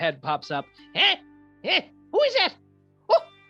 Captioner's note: crackly old man voice